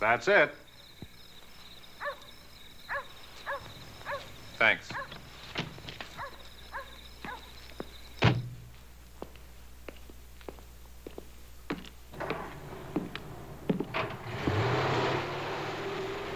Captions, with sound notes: That's it. Thanks. [footsteps approaching] [engine revving]